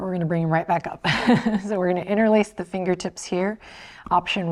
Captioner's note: chuckles